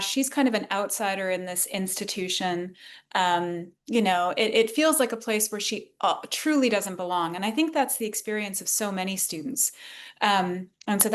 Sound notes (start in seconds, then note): none